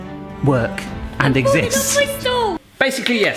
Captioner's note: mumbles